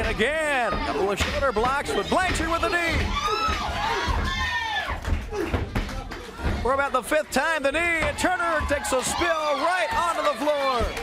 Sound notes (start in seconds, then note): 3.3 crowd cheering; 10.8 crowd cheering